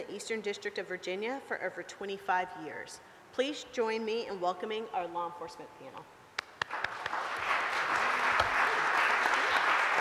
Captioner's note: applause